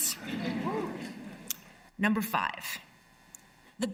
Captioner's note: laughter